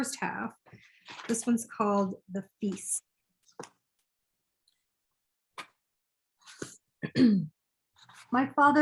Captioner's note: clears throat